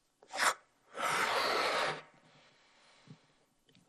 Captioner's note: blows up balloon